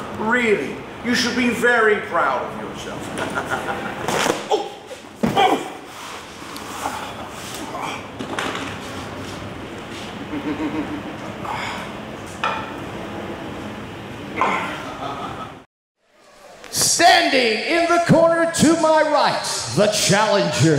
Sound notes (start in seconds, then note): 3.1 laugh; 6.1 grunt; 10.2 laugh